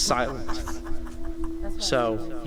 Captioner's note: laughs